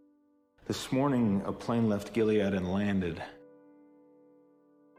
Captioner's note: voiceover